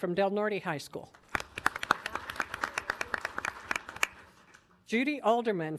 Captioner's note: audience applauding